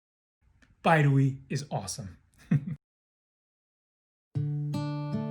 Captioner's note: chuckles; laid back music